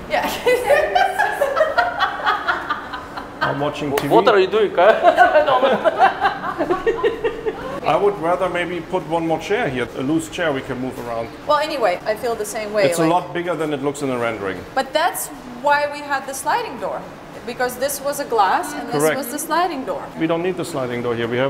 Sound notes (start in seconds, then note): 0.2 laughing; 4.7 group laughing